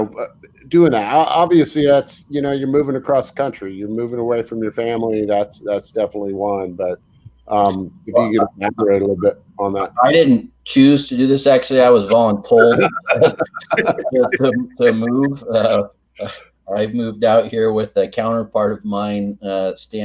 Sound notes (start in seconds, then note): 12.6 all laugh